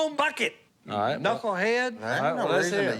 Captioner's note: chatter